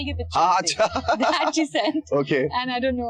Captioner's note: laughs